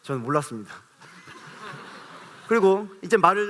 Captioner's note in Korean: 웃음